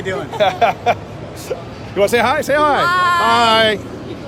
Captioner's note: laughing